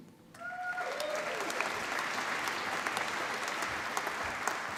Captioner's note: applause